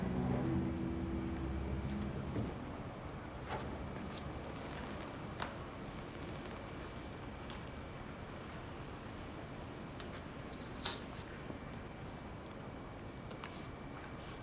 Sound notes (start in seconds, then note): 3.4 rustling sounds; 10.5 tearing sounds